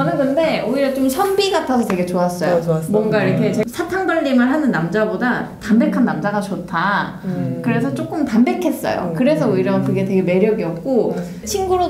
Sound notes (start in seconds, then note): 7.2 mmm.. agreeing